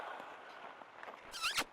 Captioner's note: kiss